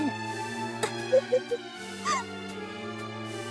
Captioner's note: evil chuckle